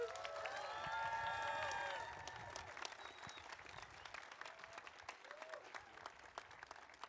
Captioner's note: audience cheering; audience applauding